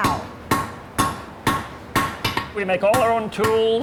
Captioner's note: repeated banging sound